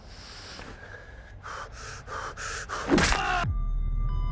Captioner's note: quick breathing noises; smashing sounds and a yell